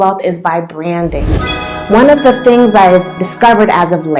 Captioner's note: bell sound